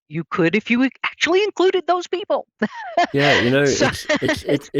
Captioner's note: laughs